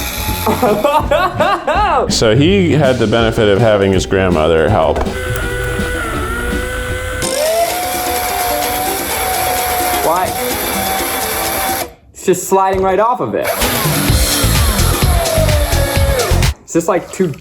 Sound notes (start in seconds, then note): 0.0 machine hissing; 0.4 laughing; 5.5 machine hissing; 8.0 upbeat music; 13.5 machine hissing